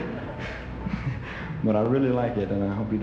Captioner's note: audience laughing